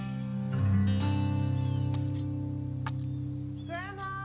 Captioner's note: trowel smacking softly